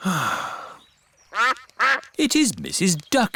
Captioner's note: sighs; quacking